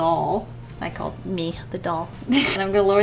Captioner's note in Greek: Γέλια